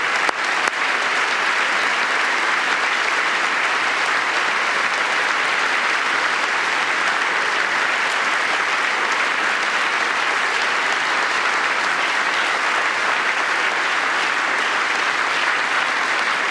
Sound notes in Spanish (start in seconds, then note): 5.9 aplausos